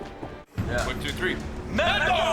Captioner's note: in English